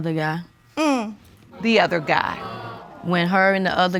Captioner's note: audience groaning